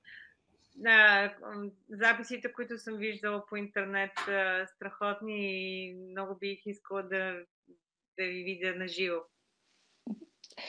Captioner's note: foreign Language Spoken